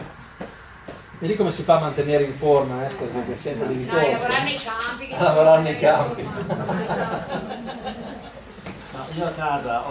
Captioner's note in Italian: Risate